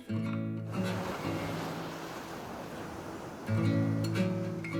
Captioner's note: waves crashing